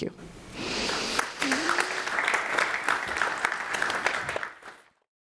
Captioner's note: audience applauding